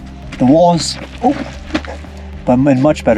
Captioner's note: fumbles